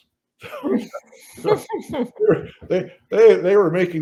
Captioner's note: all laugh